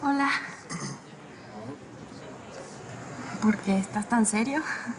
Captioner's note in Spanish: Carraspea